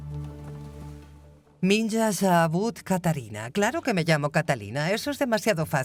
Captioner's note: speaking Russian